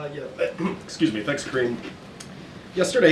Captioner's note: clears throat